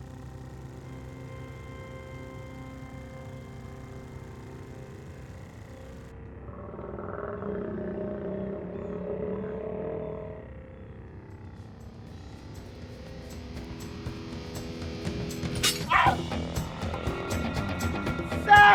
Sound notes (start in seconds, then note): 6.5 growling; 10.9 yelling